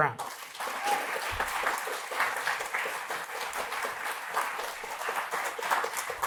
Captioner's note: applause